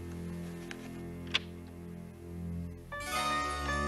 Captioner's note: lock clicks